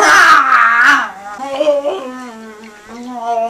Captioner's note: zombie laughs